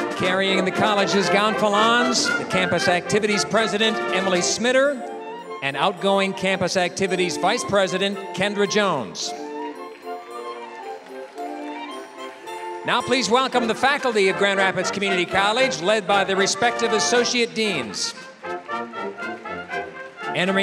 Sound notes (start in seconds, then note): 10.5 applause; 18.7 applause